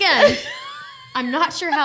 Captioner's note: laughing